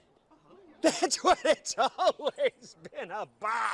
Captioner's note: laughing